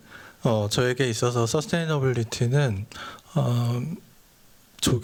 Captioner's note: speaking japanese